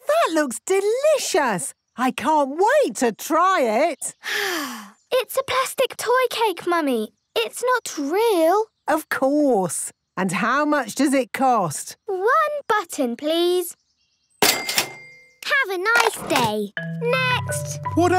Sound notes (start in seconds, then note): 4.3 sighs